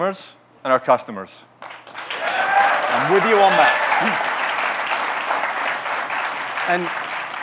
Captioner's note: audience cheering, clapping